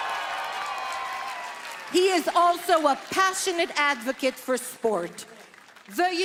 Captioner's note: applause